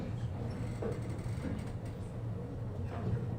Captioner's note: chair creaking